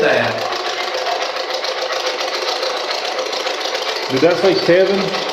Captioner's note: white Noise